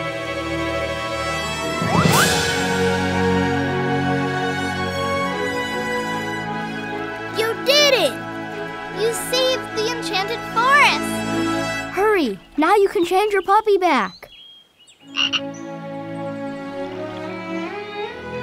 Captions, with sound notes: You did it. You saved the enchanted forest! Hurry, now you can change your puppy back. [croaking]